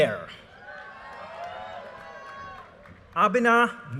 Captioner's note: audience cheers and applause